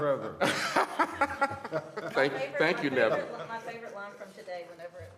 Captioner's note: laughter